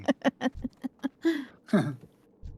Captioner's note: laughter; chuckles